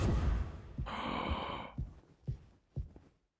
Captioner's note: Skull gasps